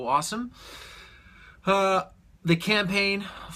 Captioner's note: deep breath